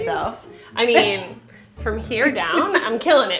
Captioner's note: laughs